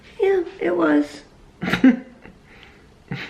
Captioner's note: chuckles